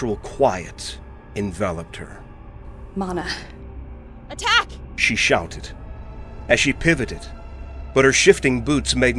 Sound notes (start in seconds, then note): 4.1 shouted out loud